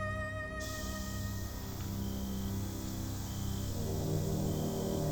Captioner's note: cicadas buzzing